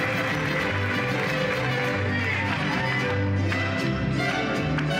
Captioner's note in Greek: χειροκρότημα